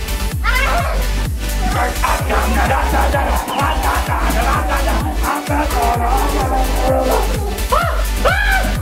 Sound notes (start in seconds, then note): 1.5 yells; 1.6 growling noises; 6.0 upbeat techno music